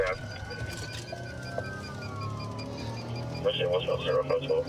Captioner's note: sirens wailing